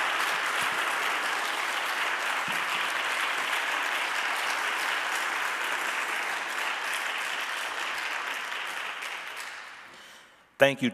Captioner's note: audience applauding